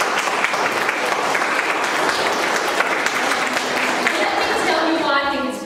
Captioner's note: applause